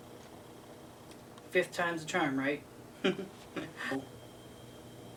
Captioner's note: chuckles